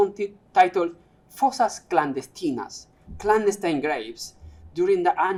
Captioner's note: non-english speech